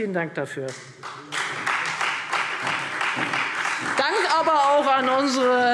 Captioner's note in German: Beifall Freie Demokraten und vereinzelt SPD